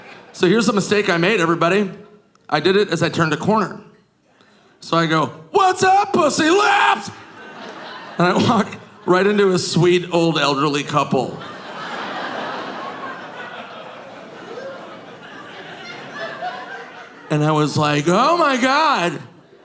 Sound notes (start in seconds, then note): 11.2 audience laughing